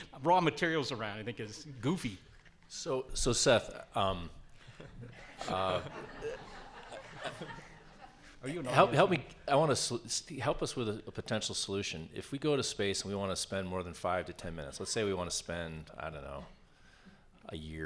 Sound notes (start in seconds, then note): 4.6 audience laughs